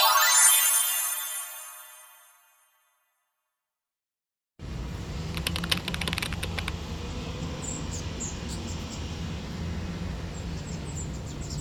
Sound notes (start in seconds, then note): 8.9 park sounds: bird chirping, flowing water